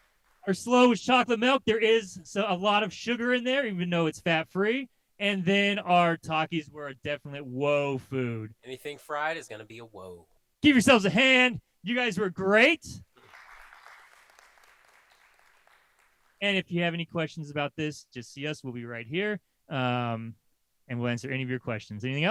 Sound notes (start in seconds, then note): 13.2 applause